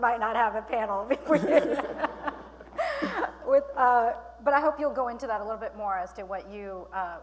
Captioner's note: laughing